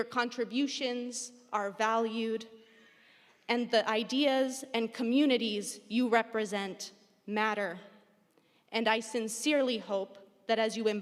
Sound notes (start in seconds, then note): none